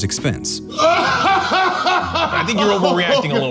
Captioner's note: laughing